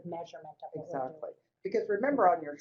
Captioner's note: voiceover